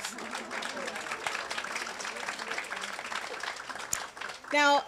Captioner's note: congregants applauding